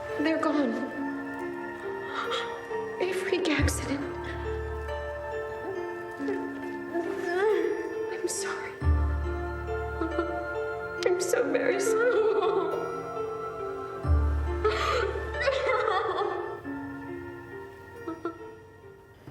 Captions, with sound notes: they're gone. (Marlee gasping) A freak accident. (Marlee sobs) I'm sorry, I'm so very sorry. (Marlee sobbing) (Marlee sobbing over eerie electronic music)